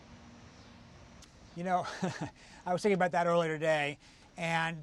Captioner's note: laughs